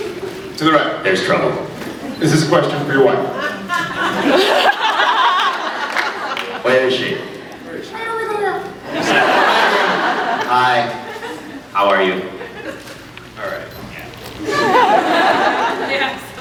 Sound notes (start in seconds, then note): 3.3 laughs; 3.4 fake voice?, laughs; 8.2 fake voice; 8.8 laughs; 14.3 laughs